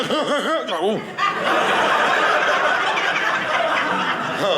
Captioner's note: audience laughing